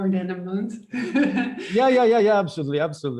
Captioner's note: chuckles